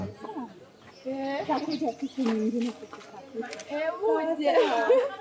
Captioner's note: speaking in foreign language